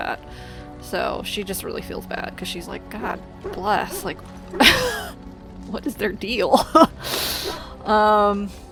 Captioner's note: laughs